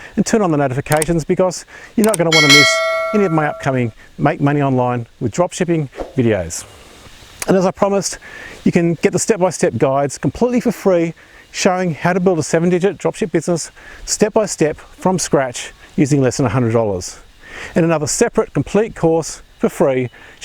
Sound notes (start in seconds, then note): 2.1 mouse clicking; 2.1 notification bell rings